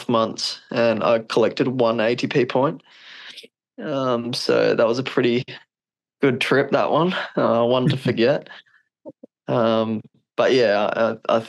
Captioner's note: laughs